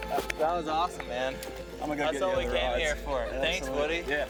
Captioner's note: laughing